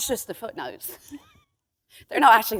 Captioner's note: chuckle